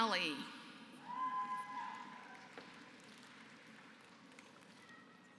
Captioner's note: applause